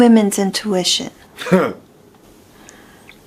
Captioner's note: scoffs